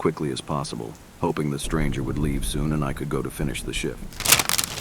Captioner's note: paper bag crumble